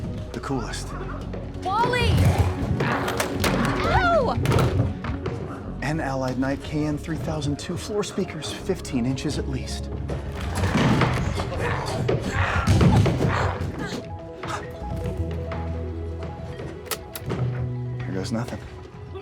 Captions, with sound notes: The coolest. - Wally! No! (door rattling) - And Allied Knight KN-3002 floor speakers, 15 inches at least. (glowzies growling) (Walter gasps) (tapecorder clicks) Here goes nothing.